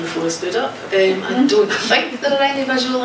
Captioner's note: laughing